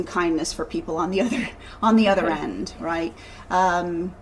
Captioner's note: laughs